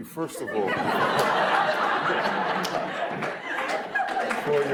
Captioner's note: audience laughs